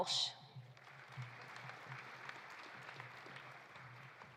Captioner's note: audience applauding